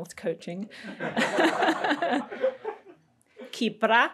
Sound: crowd giggles

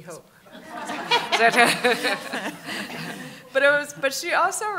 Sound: laughter

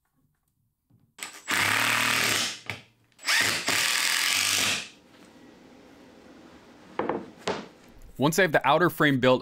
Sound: impact Drill Sounds

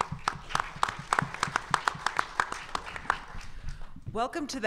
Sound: audience applause

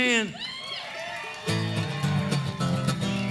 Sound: clapping; lively bluegrass music

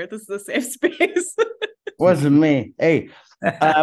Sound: laughs

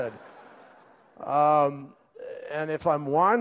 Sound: laughter

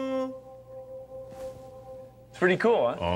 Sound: sound reverberates

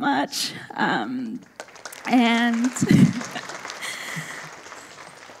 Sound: audience applauding

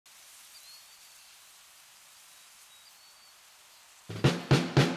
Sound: birds chirping

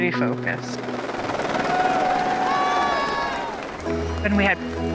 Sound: helicopter whirring; all cheering

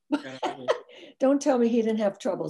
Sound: laughs

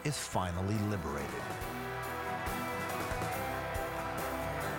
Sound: cheering

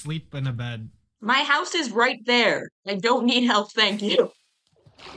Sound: laughs

